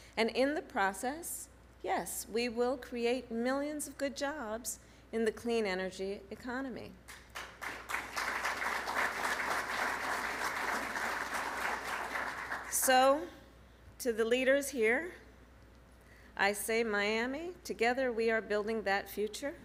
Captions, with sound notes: And in the process, yes, we will create millions of good jobs in the clean energy economy. (Applause.) So, to the leaders here, I say: Miami, together we are building that future.